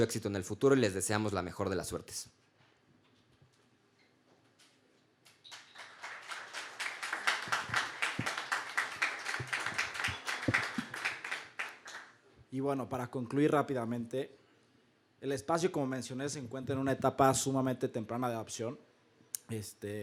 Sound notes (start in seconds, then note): 3.1 claps